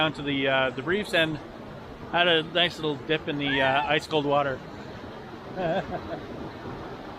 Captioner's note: laughs